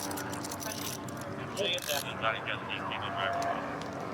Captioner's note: dispatch chatter